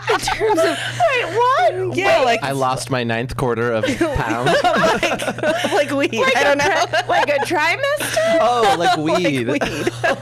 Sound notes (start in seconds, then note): 3.8 laughs